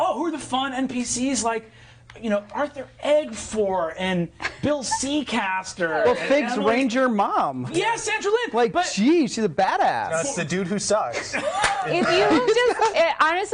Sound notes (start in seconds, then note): 11.2 laughing